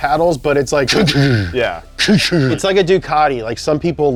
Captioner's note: engine noises